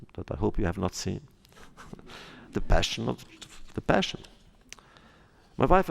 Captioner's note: laughs